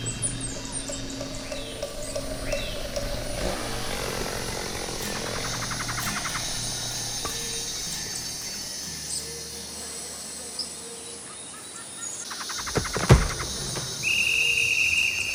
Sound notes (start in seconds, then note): 3.8 chainsaw rumbling; 5.6 insects chirping; 12.5 wood crackling